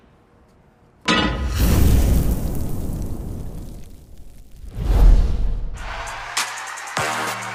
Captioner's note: pan clanks; fire whooshes; upbeat hip hop instrumental music